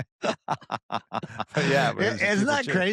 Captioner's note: laughter